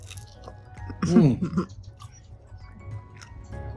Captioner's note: me chuckling in the background